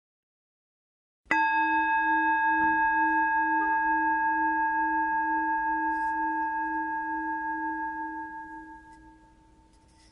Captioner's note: chime